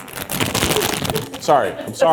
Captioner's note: bag crunching